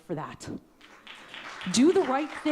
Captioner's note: audience clapping